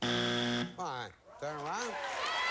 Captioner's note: buzzer sounds